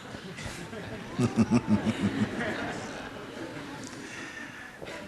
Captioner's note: laughter